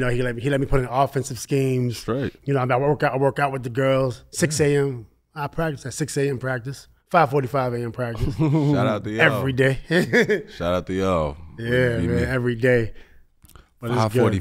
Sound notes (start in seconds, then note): 8.1 laughs